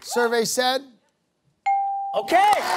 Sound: bell dings

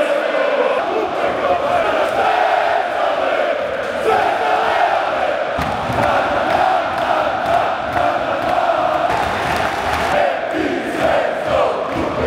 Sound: opera Singer singing; fans Chanting

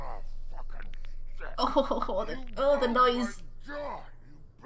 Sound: winces

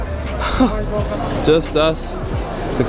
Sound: chuckles

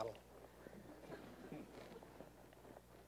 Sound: laughter

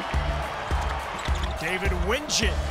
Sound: cheering

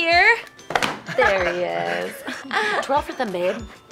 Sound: laugh

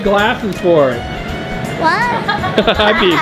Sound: laughs

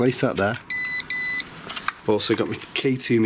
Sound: sensor beeps

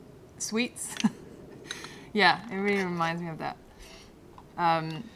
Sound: laughter

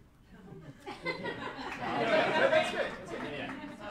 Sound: laughing

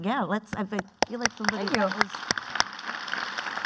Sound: clapping

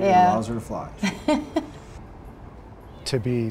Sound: laughing

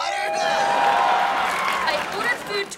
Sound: cheering

